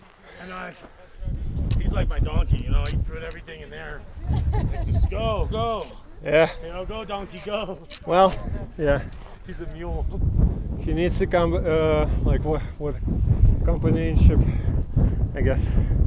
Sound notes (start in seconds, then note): 10.0 laughs